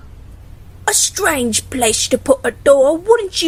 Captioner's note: in a British accent